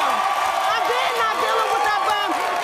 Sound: audience cheers

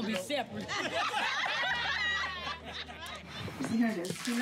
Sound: laughter

